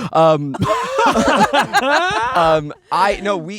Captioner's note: everyone laughing